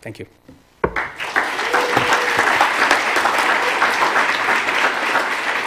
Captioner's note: applause